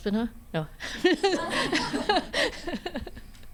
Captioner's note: all laughing